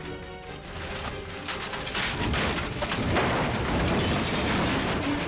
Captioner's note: Jeep revving; suspenseful music; Jeep imploding